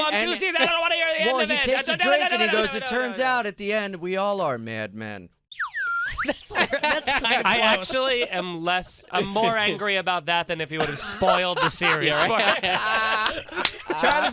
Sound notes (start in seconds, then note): 5.5 slide whistle; 12.9 laughter